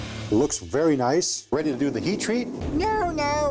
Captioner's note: high-pitched voice